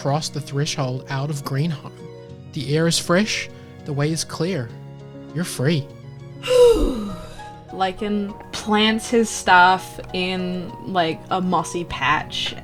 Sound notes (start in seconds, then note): 6.4 sighs